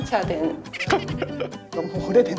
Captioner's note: chuckle